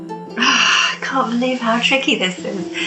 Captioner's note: sighs